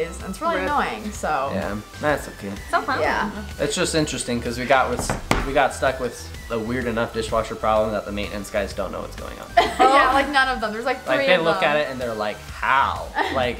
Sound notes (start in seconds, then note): 9.6 laughs